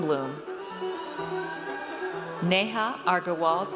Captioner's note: audience cheers